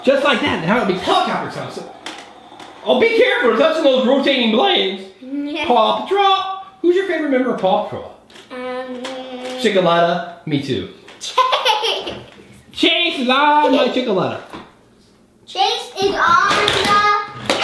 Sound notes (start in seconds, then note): 11.2 laughing